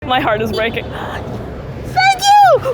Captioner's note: car horn beeping